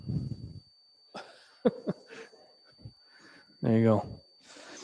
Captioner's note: chuckles